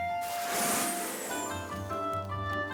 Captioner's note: whoosh!